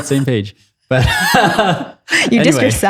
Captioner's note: laughs